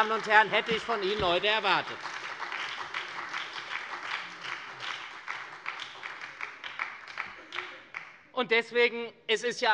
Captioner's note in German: Beifall bei der SPD und der FDP